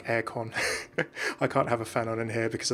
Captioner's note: laughs